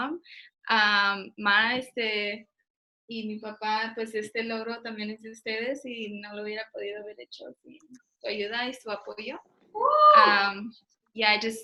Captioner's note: speaks in Spanish